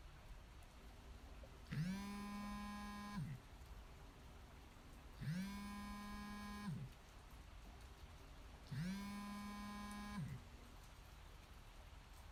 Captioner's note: phone buzzing